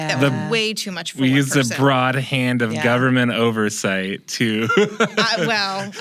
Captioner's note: laughs